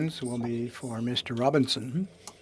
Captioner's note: speaking French